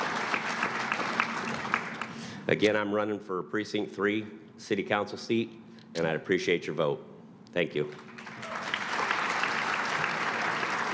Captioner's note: applause